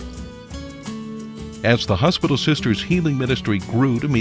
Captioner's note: voiceover